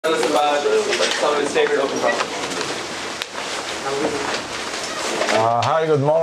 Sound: background chatter

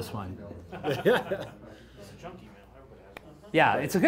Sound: laughter

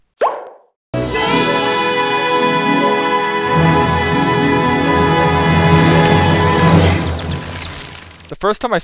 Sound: birds flapping

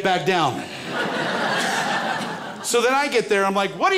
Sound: crowd laughs

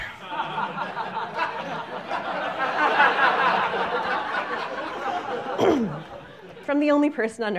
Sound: laughter

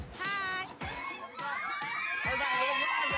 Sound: kids scream

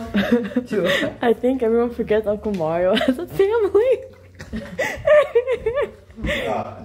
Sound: laughing

